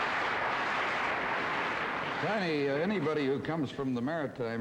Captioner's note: audience applause